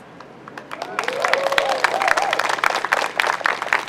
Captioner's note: crowd applauds